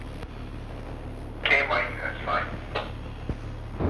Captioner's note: intercom